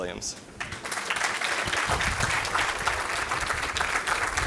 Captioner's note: audience applauds